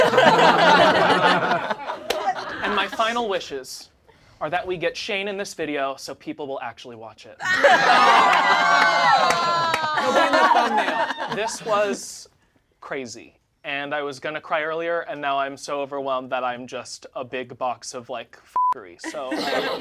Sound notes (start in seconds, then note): 0.0 all laugh; 7.4 all laugh; 18.6 beep